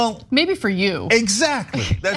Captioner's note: laugh